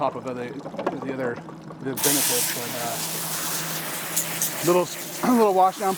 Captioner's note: water spraying